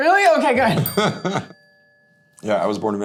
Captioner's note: Hayden laughs